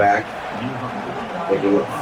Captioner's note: crowd Noises